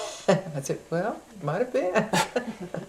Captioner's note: laughter